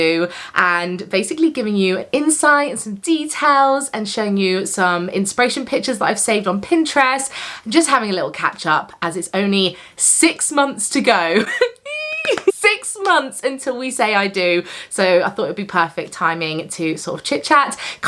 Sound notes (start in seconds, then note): 11.8 exclaims